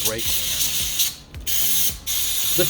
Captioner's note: drill whirring